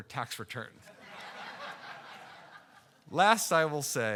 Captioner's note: audience laughing